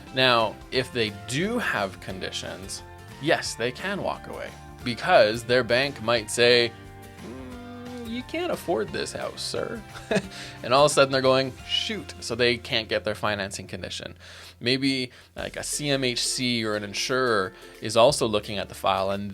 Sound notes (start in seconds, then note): 9.9 giggles